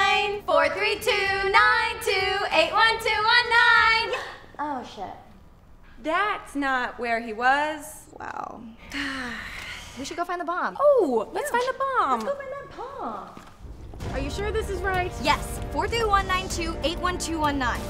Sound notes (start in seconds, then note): 8.8 sigh